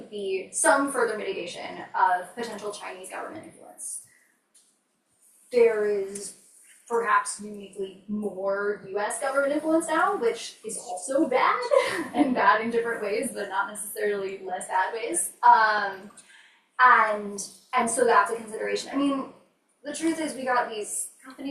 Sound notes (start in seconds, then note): 11.6 laughs